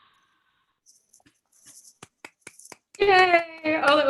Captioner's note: all applauding